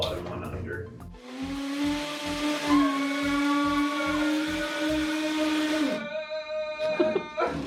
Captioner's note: tool drilling; moaning